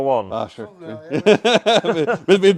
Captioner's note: laughter off camera